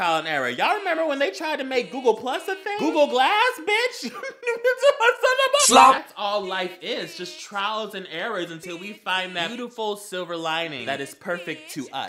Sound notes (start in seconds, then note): 3.8 Mac mating call